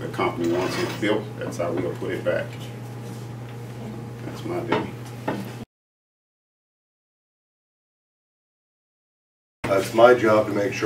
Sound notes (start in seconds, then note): 5.6 silence